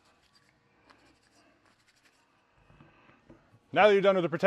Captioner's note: towel scratches